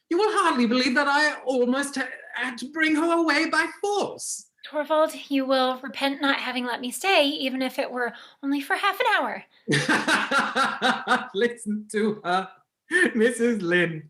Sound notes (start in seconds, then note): 9.7 Helmer laughing